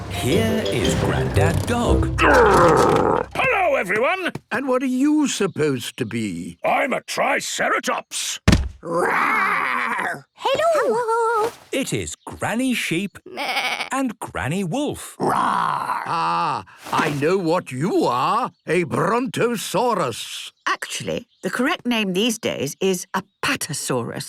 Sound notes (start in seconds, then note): 0.0 horn honking; 8.4 thudding; 13.3 bleating; 15.0 roaring